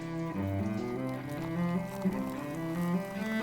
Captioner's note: coffee pouring